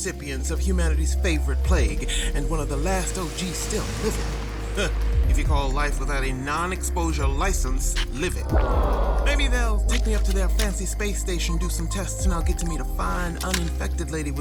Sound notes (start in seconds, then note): 8.0 digital HUD noises